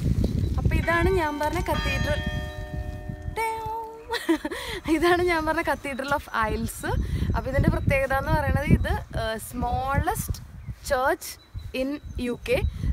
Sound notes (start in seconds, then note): 2.5 church bell chimes